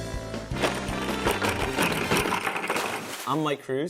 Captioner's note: clanking